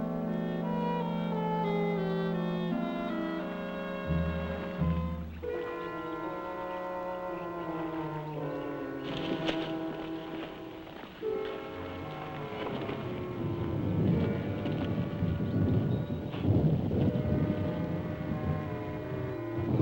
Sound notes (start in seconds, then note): 0.2 mysterious music; 13.0 birds chirping; 13.0 thunder rumbling